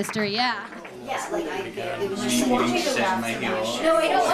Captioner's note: group chattering